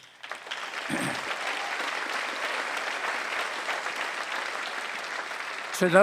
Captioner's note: applause